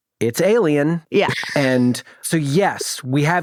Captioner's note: chuckles